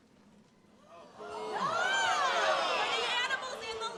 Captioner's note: attendees exclaims